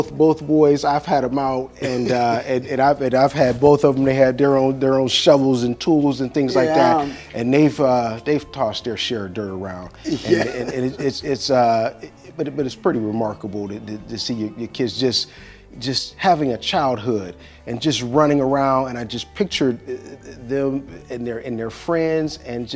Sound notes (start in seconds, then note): 10.0 laughs